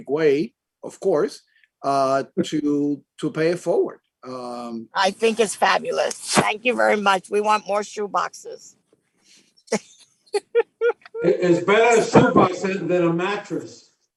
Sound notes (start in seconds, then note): 10.3 chuckles